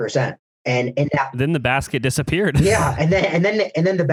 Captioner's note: laughs